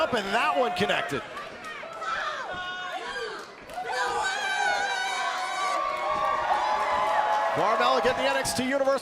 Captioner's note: crowd cheering